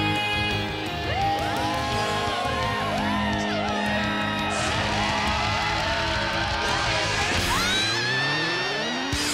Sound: cheering

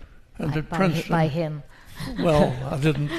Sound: laughs

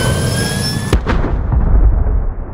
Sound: boom

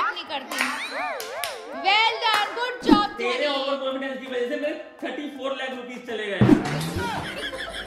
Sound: applause

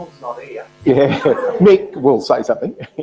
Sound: laughter

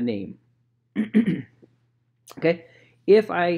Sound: clears throat

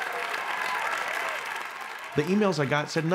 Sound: audience applauding

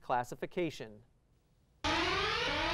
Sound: alarm

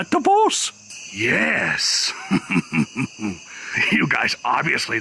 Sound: chuckles sinisterly

